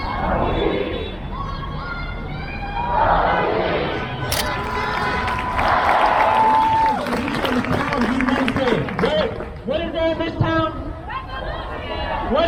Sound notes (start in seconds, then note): 0.1 crowd; 2.8 crowd; 5.4 crowd; 6.3 crowd cheers; 11.1 crowd